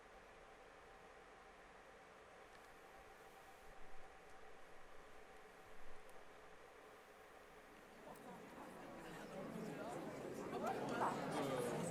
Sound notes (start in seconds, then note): 1.6 the audience chatter gradually returns